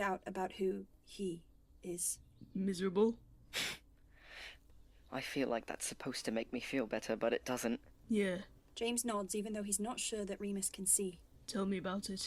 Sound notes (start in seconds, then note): 3.5 Remus snorts